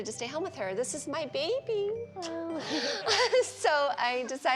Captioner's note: laughs